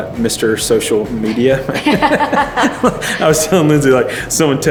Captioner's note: laughs gently